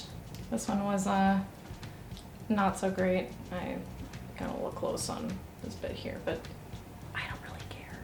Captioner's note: whispered